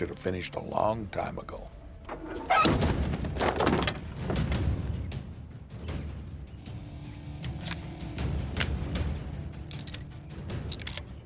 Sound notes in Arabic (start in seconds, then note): 2.1 صرير مفتوح; 3.4 موسيقى متوترة